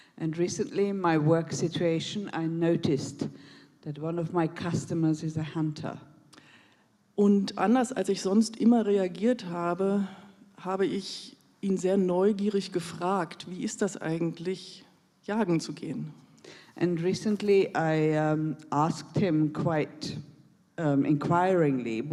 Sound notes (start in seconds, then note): 7.1 in German